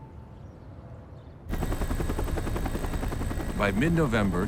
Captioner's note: helicopter blades whipping